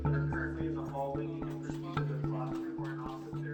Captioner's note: speaker's voice trailing off